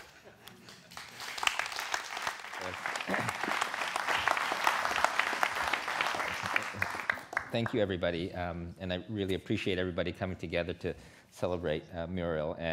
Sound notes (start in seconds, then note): 0.3 laughter; 2.2 applause